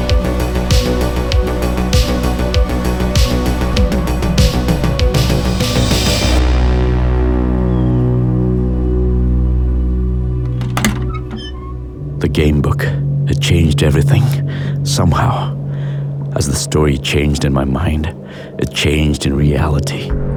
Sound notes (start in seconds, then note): 10.4 door creaks; 20.1 slow ambient music